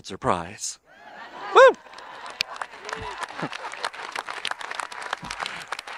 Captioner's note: audience applauding